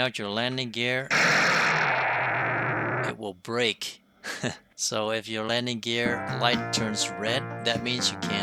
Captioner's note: crash